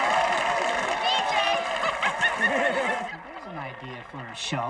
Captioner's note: laughs